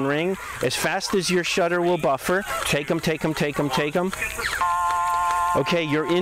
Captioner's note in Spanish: tono